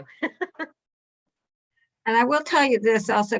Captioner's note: laughter